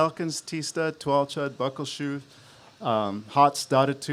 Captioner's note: speaks a global language